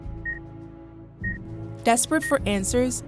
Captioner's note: machine beeping